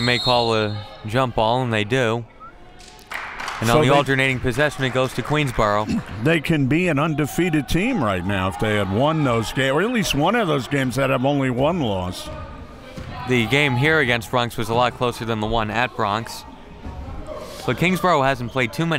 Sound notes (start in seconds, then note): 2.8 crowd clapping